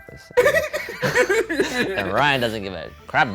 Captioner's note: laughing